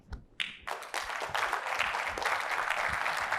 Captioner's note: applause